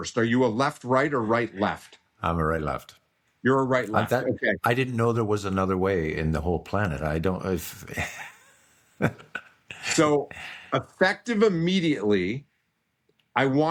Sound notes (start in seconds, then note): 7.8 laughing